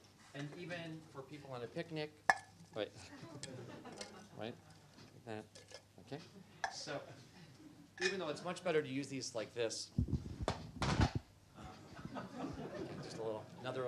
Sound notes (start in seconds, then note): 10.1 loud cracking noise; 11.6 laughter